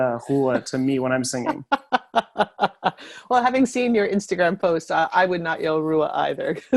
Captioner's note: laughter